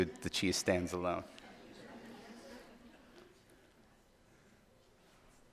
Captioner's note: audience laughing